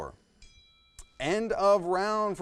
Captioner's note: bell chimes